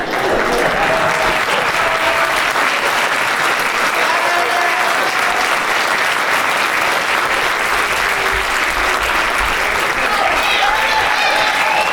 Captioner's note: applause